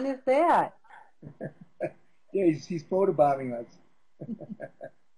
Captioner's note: laugh